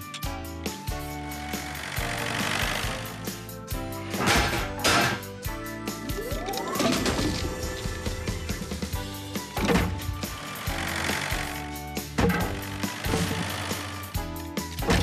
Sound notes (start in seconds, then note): 4.2 clanging; 6.8 hydraulic Whirring